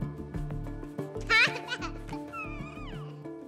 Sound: laughs

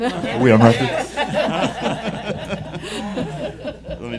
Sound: laughing

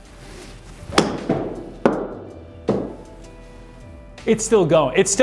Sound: hits golf ball

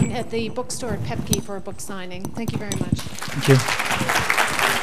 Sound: clapping

